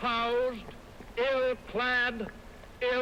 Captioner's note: none